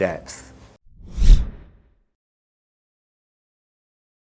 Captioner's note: air whooshes